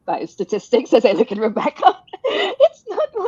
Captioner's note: laughing